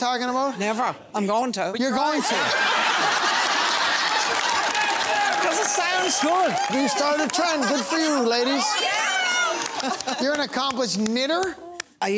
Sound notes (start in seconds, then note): 3.1 laughing and applause